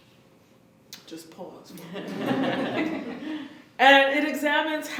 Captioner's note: laughter